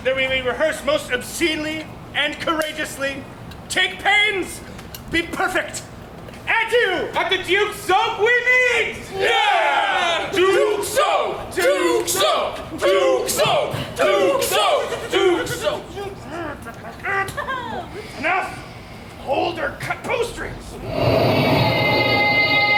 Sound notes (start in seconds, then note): 16.7 Bottom tutting; 20.9 mysterious music